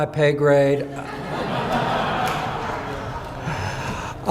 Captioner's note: audience laughing